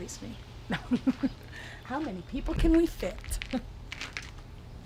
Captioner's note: laughing